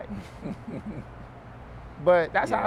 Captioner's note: chuckles